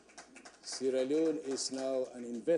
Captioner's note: applause